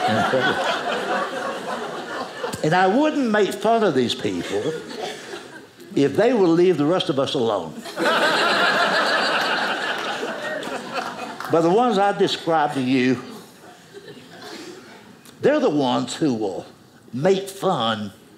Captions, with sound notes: and I wouldn't make fun of these people if they would leave the rest of us alone, (audience laughing) but the ones I've described to you, they're the ones who will make fun